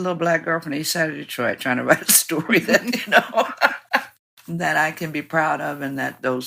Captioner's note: laughs